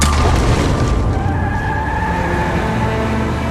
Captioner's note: tires squeal; instrumental music